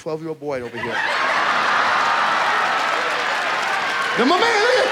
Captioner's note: audience laughs